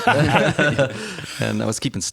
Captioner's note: laughter